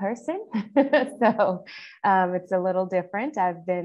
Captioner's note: chuckles